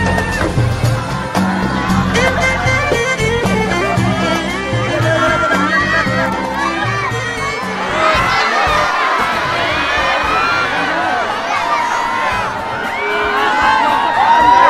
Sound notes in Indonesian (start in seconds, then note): 0.1 teriakan warga meriah; 7.3 warga masyarakat masih berteriak meriah